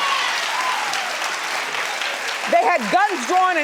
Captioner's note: audience cheering